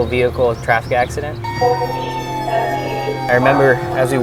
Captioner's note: sirens and horns blaring